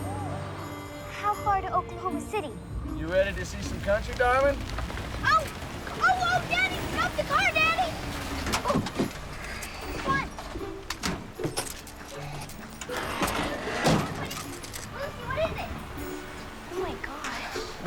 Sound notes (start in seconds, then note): none